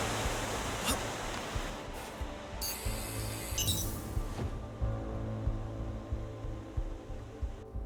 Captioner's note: beeping